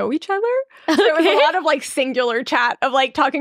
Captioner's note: laughing